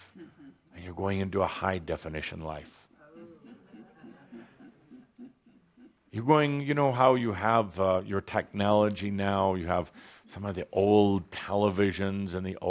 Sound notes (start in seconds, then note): 3.0 audience chuckling